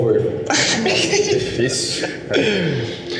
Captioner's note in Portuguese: risos